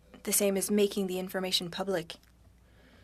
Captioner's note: speaking French